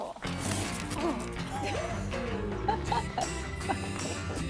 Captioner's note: upbeat energetic music; both laughing